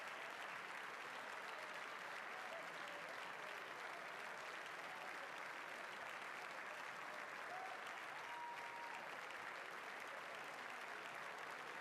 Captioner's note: cheering and applause